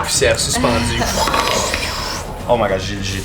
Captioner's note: vocalizes wind